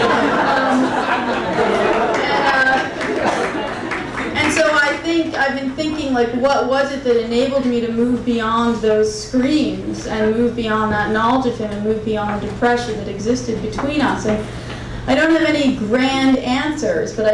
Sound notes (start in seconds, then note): 0.0 crowd laughing; 3.8 crowd applauding